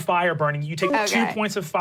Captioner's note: computer beeps